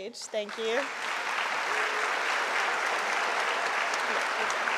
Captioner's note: audience applauding